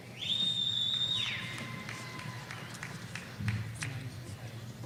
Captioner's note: audience cheering